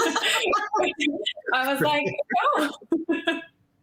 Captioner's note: laughing